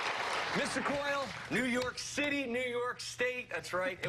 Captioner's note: applause